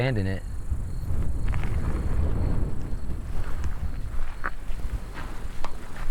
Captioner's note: wind rustling; footsteps crunching